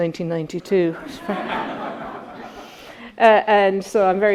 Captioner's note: attendees laughing